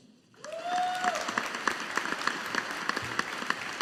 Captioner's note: audience applauding